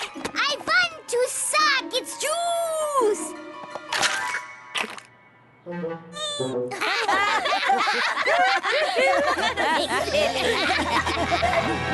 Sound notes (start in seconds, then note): 4.7 crunch; 6.7 laughter